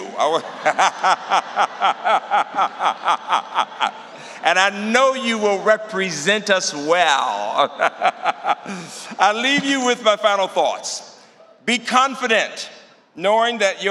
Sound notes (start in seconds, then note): 0.1 laughter; 7.5 laughter